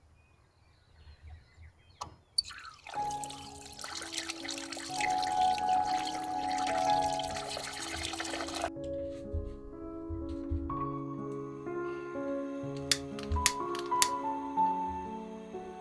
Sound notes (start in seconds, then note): 2.4 water running; 4.5 light instrumental music